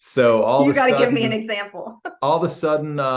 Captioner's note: laughs